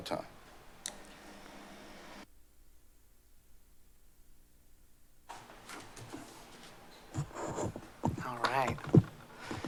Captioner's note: silence